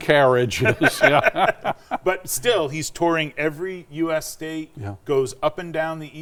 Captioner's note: laughs